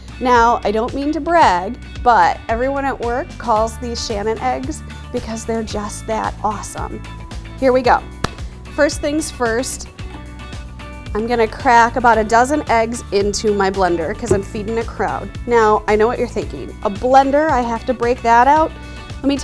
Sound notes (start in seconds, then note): 8.2 hands clap